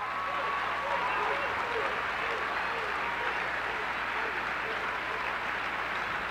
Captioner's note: applause, cheering